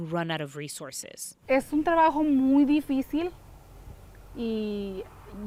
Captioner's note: speaking in foreign language